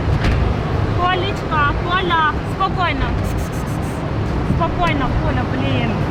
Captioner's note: speaking in foreign language